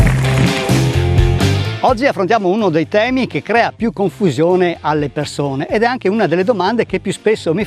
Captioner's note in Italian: Applauso